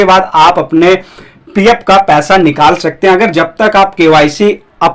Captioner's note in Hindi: नाक से की जाने वाली आवाज़